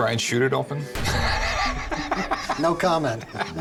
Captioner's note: laugh